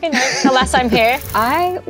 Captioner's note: Luke laughs; film reel clicks